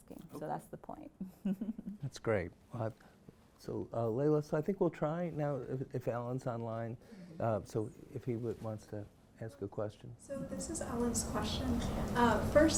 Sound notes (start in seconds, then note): 1.2 laughs